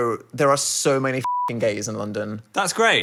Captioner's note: beep